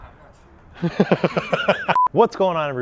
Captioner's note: laughing